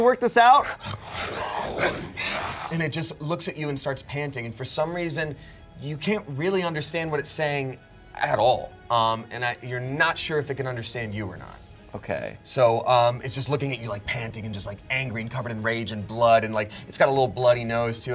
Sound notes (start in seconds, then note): 0.6 wolf snarls; 0.8 pants